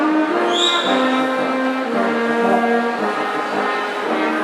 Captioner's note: attendee whistles